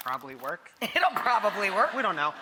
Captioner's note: audience laughs